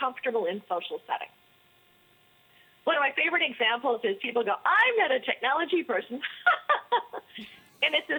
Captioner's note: laughter